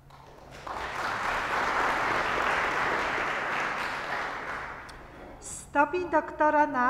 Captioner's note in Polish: oklaski